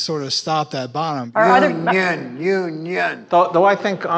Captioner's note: chanting